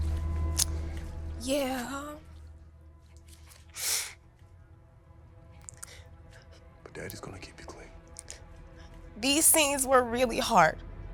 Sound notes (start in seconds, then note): 3.7 sniffs